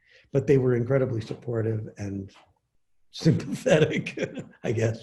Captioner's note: laughs